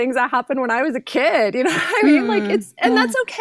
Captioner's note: laughs